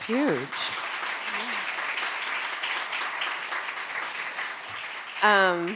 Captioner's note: audience applauding